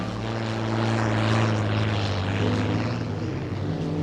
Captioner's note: boat engine purrs